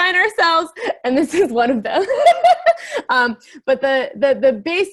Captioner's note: laughing